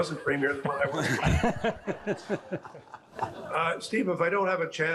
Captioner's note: all laughing